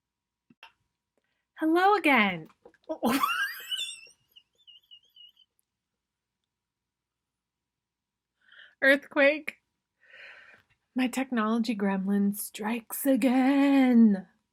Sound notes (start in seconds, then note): 4.3 laughs